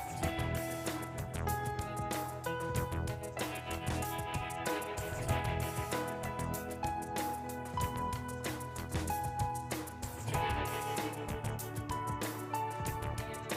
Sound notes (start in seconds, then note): none